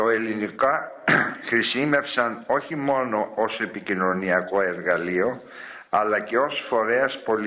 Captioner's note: clears throat